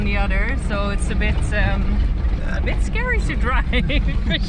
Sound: burp

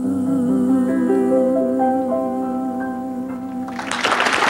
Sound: applause

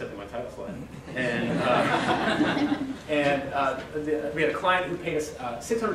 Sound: audience laughter

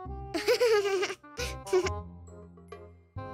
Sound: laughing

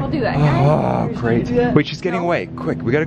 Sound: sighs loudly

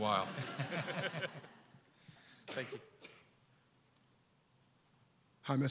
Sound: audience laughter

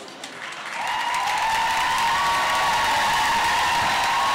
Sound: applause

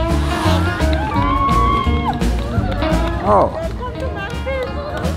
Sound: cheering/Applause

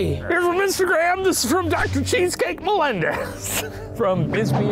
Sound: laughs

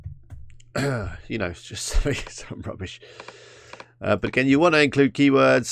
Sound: chuckles

